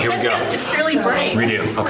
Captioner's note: laughs